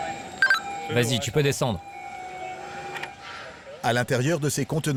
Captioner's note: speaking foreign language